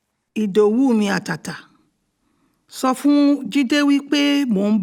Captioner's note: speaking in Yoruba